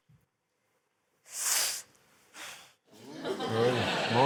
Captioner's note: breathes sharply